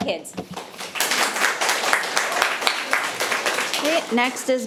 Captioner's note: audience applauding